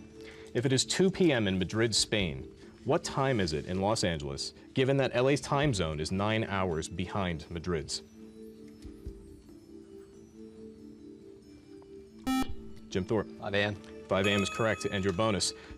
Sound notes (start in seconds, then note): 8.0 soft music; 12.2 beep